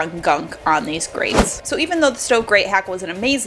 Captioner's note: whooshing